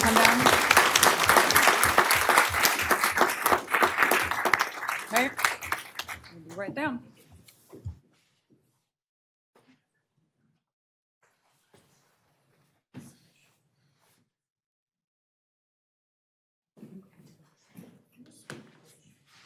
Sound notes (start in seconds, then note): 10.1 applause